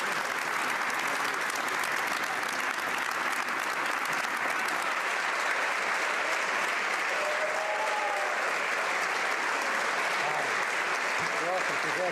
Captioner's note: applause